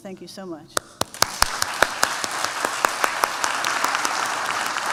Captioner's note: applause